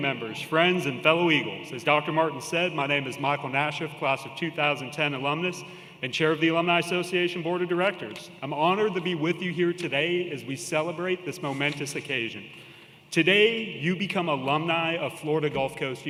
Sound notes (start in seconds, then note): none